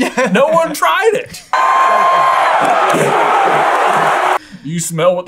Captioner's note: crowd cheering